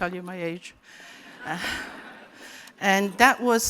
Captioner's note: laughter